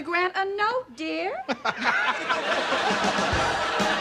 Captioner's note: laughing